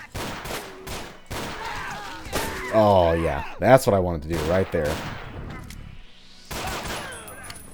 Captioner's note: Barrels explode, immolated Vultures screaming in agony; BANG BANG commences